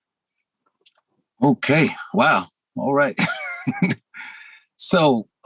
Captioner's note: laughs